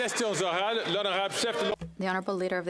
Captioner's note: applause